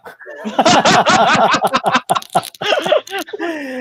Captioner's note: laughing